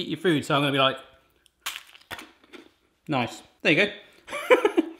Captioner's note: crunches; laughs